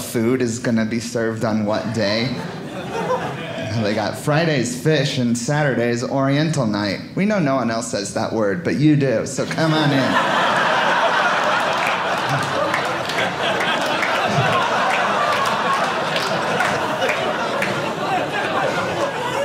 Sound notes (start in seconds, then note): 1.7 audience laughing; 10.4 audience laughing; 12.7 audience clapping